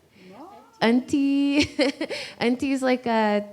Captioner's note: laughs